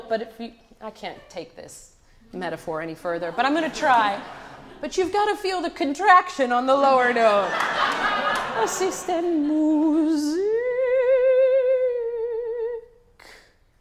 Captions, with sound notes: But I can't take this metaphor any further. But I'm gonna try. But you've got to feel the contraction on the lower note. (audience laughs) (sings in a foreign language)